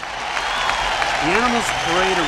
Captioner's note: ਭੀੜ ਤਾੜੀਆਂ ਮਾਰਦੀ ਹੈ